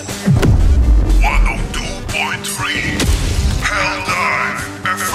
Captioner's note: vinyl scratch sound; FTL jump sound; hellpod landing sound